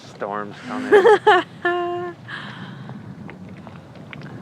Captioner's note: laughs